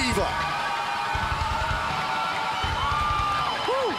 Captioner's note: crowd cheering